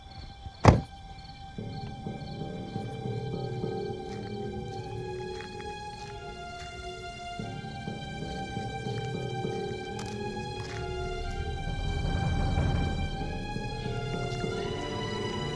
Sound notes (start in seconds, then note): 0.6 car door slams; 3.7 footsteps